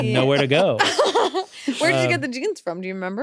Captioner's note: laughs